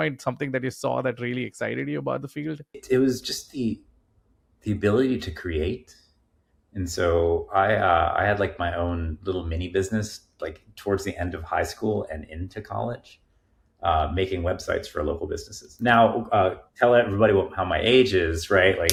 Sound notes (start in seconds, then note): none